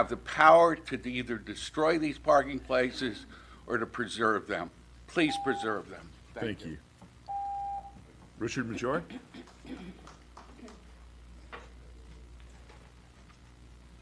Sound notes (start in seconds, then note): 7.3 timer dings